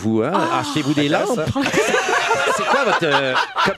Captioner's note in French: rires